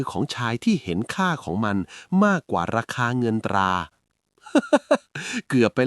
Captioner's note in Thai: เสียงหัวเราะ